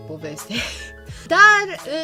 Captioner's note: laughs nervously